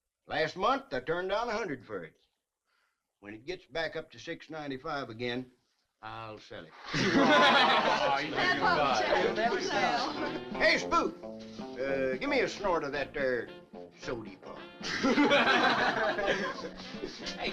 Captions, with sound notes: Last month I turned down $100 for it. When it gets back up to $695 again, I'll sell it. (all chuckling) (teens chattering) Hey, Spook. Gimme a snort of that there sode pop. (all chuckling)